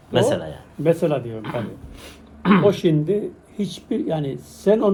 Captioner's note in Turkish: boğazını temizler